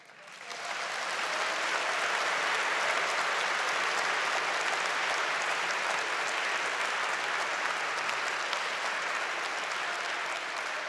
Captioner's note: applause